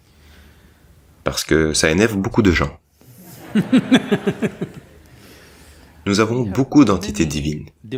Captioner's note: laughs